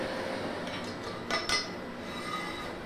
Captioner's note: metallic clatter